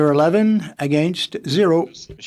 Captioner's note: speaking French